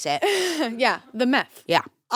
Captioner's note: laughs